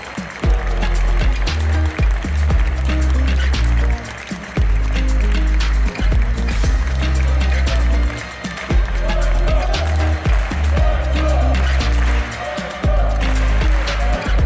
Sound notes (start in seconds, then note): 0.1 applause; 0.4 ♫ Midtempo guitar music ♫; 8.5 Team cheers 'Slovensko', clap-clap; 13.0 the audience joins clapping rhythm